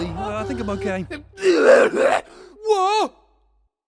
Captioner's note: evil laughter; choking